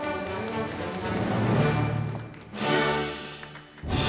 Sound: audience applauding

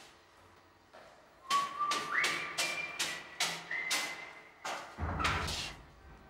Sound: footsteps tapping on stone steps; whistles melody line of "no more lonely nights"; door squeaks open

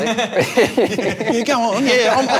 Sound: laughs

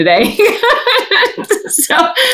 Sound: laughs

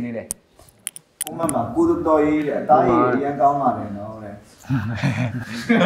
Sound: fan

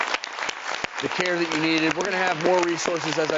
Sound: audience applauds

